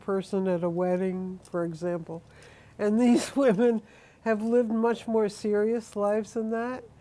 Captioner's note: laughs